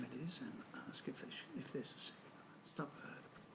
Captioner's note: speaking faintly